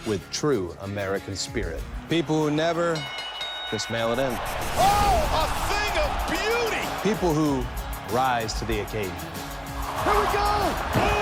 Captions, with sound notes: with true American spirit. People who never (bell ringing) just mail it in. Oh, a thing of beauty. People who rise to the occasion. Here we go, boom.